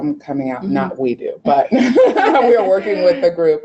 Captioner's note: laughing